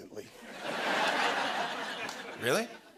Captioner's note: laughter